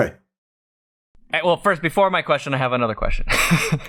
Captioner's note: laughter